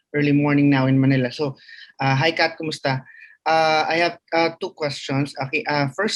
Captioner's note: speaks in foreign language